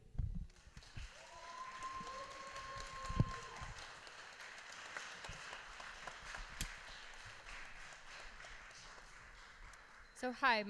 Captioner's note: applause